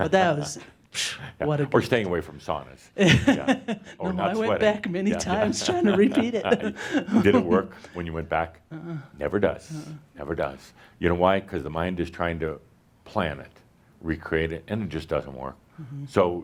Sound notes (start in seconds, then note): 3.0 she chuckles; 6.3 she laughs